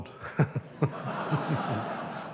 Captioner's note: laughter